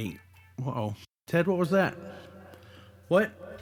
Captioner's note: computer sound